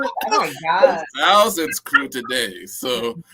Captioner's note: laughter